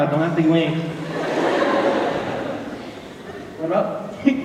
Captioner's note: laughter